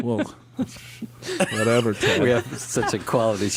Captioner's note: laughs